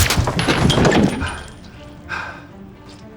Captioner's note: gunshot; panting